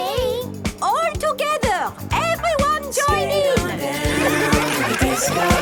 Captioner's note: laughter